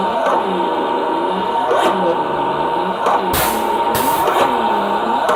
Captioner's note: sprayer whirring slowly